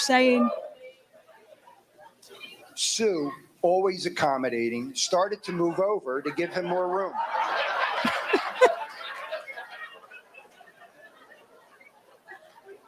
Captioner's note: laughter